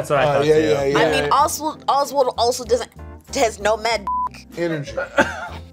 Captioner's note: beep